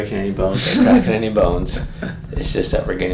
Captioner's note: patient laughs